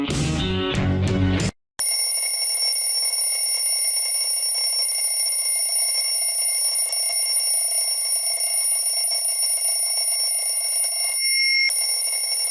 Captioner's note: alarm ring